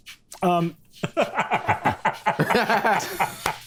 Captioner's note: all laughing